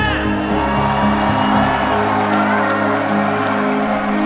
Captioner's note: audience cheers